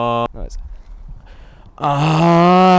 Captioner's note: pained outcry